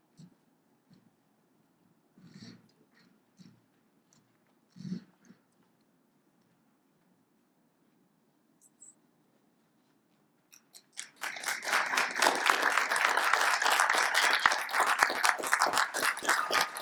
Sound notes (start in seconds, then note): 10.8 congregant claps